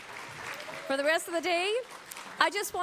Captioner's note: applause